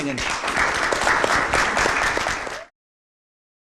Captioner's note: applause